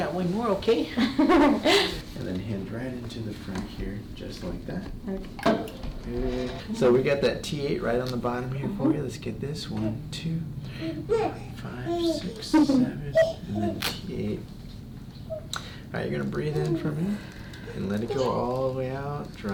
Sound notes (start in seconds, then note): 1.0 both laugh; 6.0 table creaks; 17.0 patient breathes in